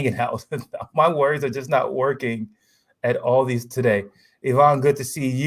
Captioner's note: laughs